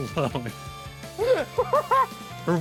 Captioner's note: losing it laughing part 2